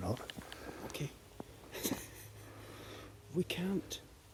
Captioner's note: chuckles